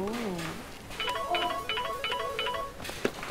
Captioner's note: Phone ringing